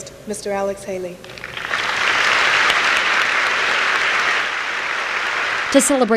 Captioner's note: applause